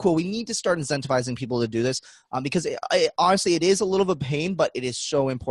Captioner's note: none